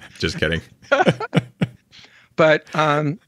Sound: both laugh

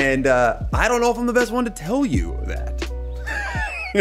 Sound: laughs

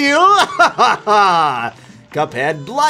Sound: menacing laugh

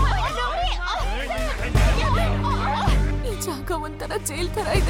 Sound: Malay Language

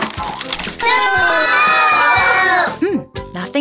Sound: audience booing

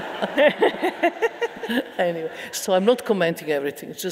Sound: audience laughing

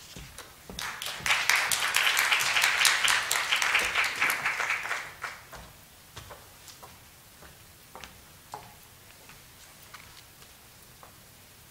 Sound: clapping

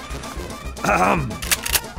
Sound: politely clears throat

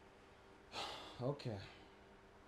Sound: sighs

